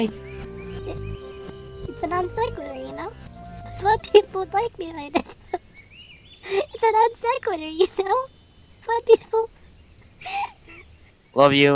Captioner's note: sobs